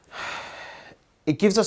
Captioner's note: person sighing